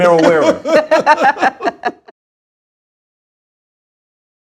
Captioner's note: laughter